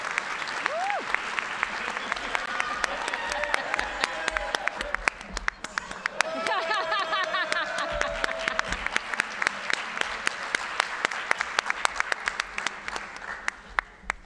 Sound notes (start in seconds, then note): 7.0 audience applauding